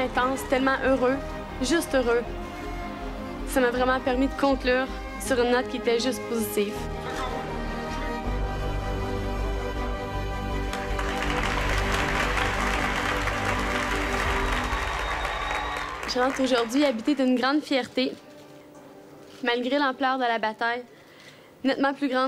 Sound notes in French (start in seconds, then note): 6.8 acclamations